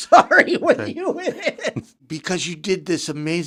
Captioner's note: laughing